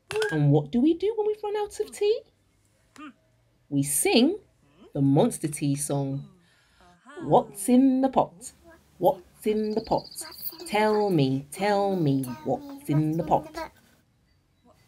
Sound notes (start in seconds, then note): none